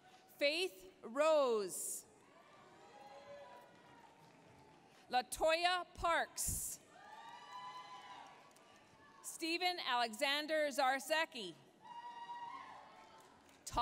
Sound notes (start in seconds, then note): 0.0 applause, cheering; 2.4 applause, cheering; 6.9 applause, cheering; 11.9 applause, cheering